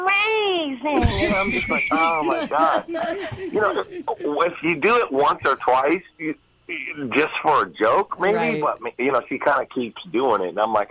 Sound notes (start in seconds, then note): 0.9 they laugh